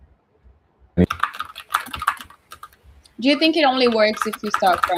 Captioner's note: typing